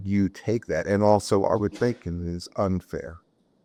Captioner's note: coughs